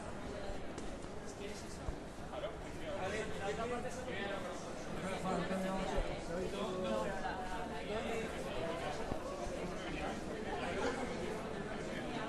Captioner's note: crowd murmuring